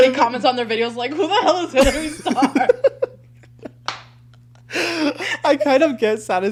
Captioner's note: both laughing